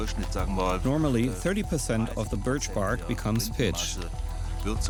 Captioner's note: speaking in German; voice-over